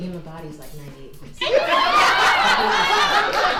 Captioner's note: audience laughs